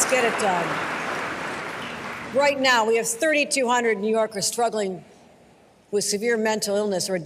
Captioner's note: applause